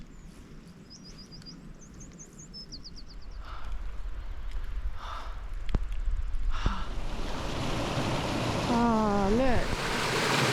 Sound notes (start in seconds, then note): 0.7 bird tweeting; 3.4 huffing & puffing; 6.8 water rushing